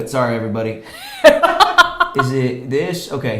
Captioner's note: laughs